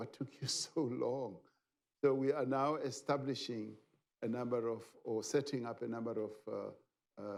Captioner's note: laughs